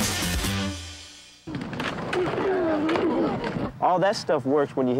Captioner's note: all grunting